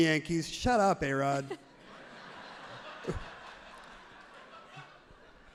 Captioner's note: everyone laughs happily